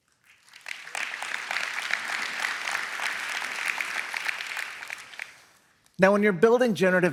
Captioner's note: applause